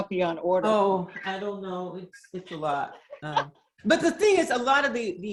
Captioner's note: laughs